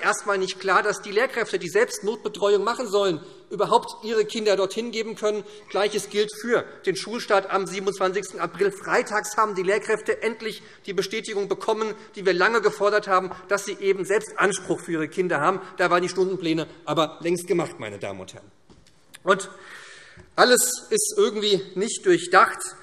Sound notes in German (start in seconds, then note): none